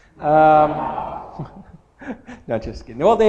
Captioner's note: laughter